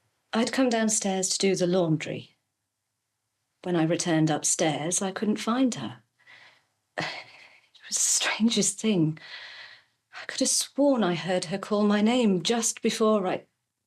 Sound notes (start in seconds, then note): none